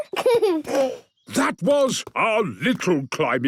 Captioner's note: giggles